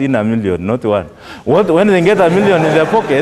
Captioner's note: laughter